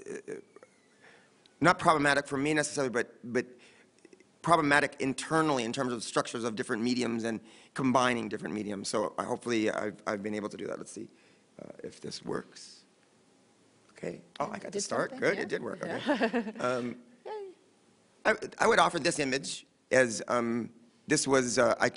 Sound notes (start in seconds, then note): 15.2 laughs